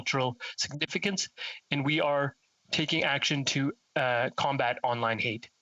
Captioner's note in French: voix de l'interprète